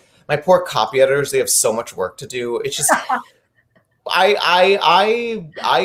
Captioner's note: laughing; laughing